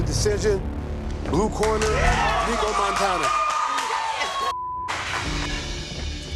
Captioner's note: cheers and applause